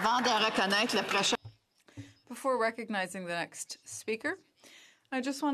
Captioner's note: some Applause; speaking French